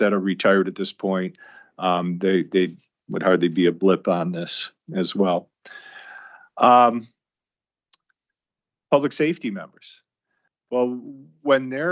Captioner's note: gasps